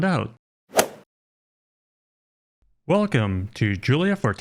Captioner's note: golf swing sound effect